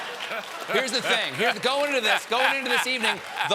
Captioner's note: laughter